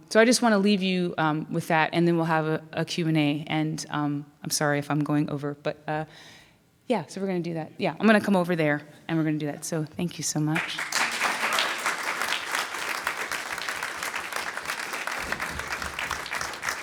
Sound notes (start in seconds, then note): 10.5 audience applauds